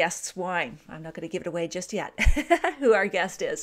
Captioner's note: laughs